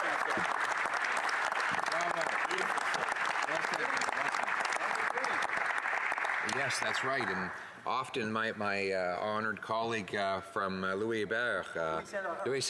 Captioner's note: applause